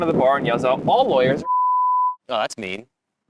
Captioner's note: beep